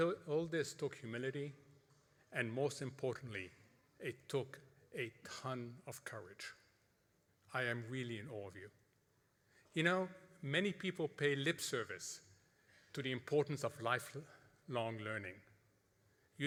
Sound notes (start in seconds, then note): none